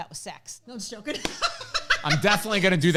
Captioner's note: laughs